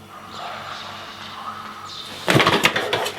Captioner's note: distant whispering